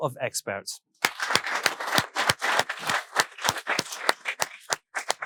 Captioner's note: all applauding